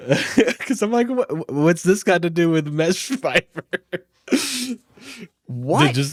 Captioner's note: laughs